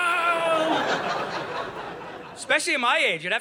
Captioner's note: audience laughing